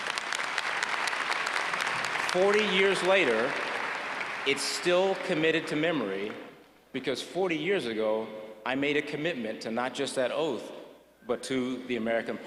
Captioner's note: applause